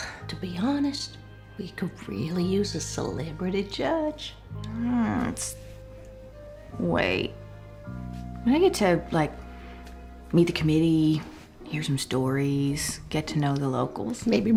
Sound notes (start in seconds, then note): 0.0 sighs; 4.5 groans